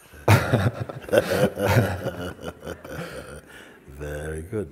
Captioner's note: laughter